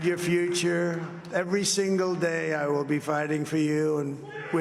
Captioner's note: cheers and applause